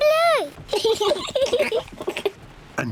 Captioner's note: both laugh